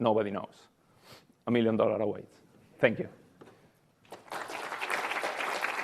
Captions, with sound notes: nobody knows, a million dollar awaits. Thank you. (audience applauding)